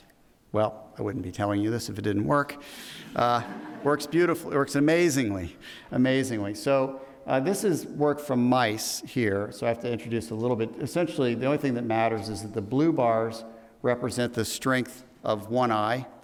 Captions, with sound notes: Well I wouldn't be telling you this if it didn't work, (audience laughing) works beautifully, works amazingly, amazingly. So this is work from mice here, so I have to introduce a little bit. Essentially the only thing that matters is that the blue bars represent the strength of one eye,